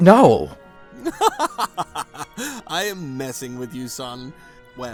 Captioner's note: chuckles